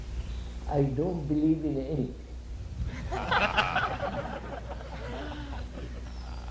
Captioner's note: laughter